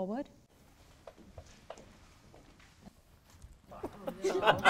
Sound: rustling footsteps; people laughing

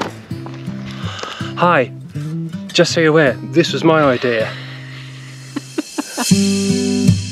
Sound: laughter

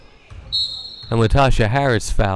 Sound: whistle blowing

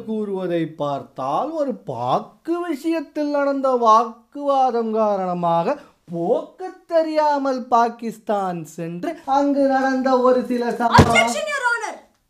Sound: speaking slowly

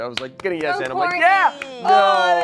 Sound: applauding

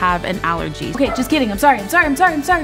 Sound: Minnie barking

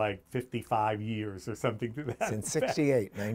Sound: laughs

